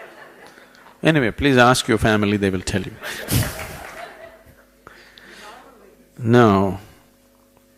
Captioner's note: laughter; laughter